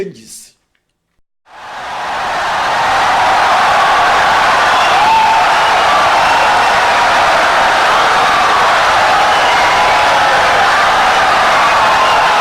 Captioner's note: wild applause and cheering for 17 seconds